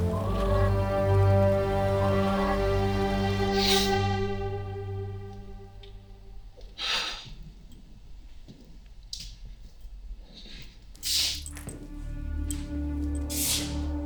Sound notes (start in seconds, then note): 6.7 Brown sighing; 11.3 sinister music